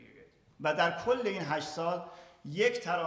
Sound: speaking in farsi

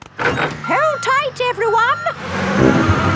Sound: bus beeping

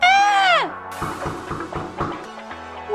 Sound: knock, Knock, Knock, Knock, Knock!

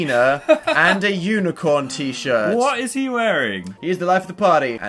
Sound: laughs

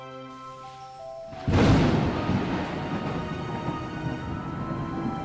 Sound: thunder

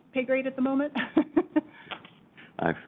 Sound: laughs

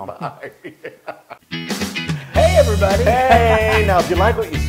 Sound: laugh

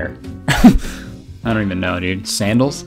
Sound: chuckles

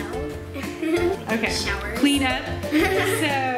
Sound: giggle; giggle

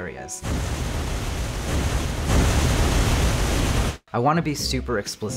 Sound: rockets firing

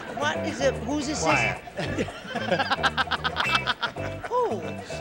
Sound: laughter

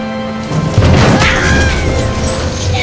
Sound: slam

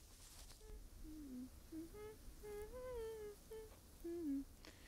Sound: Brigit humming

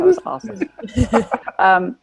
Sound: cast chuckles

